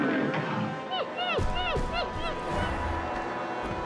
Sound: whimpering

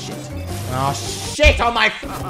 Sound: laughing

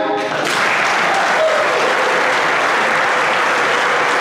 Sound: applause

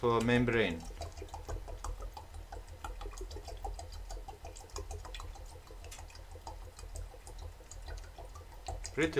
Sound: damn, water still gurgling

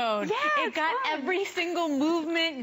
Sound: laughter

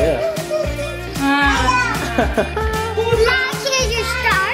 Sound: laughter

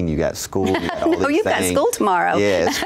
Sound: laughs

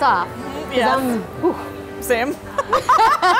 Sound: sighs; both laughing

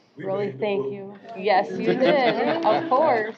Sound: overlapping chatter

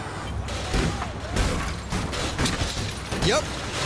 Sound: background smashing

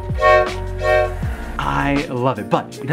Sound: train toots

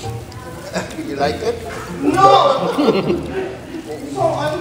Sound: attempt to spit again

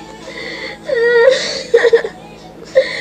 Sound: cries

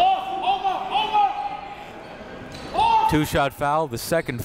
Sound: coaches yelling; crowd talking

